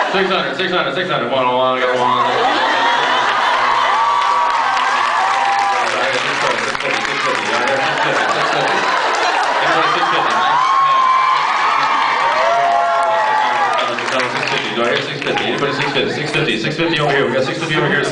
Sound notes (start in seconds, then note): 2.6 cheers; 3.1 cheers, applauds; 8.3 applauds; 12.1 cheers; 14.4 cheers, applauds